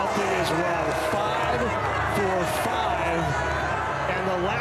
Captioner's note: fans cheer